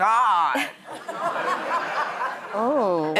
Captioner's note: audience laughs